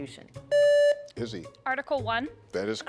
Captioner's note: contestant beeping